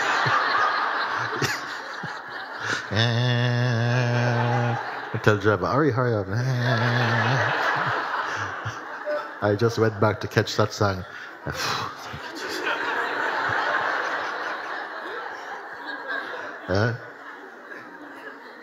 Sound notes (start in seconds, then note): 0.0 laughter; 11.4 Mooji laughs; 11.4 laughter